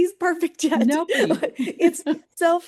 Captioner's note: chuckles